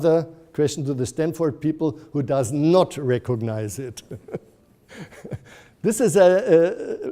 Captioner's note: laughs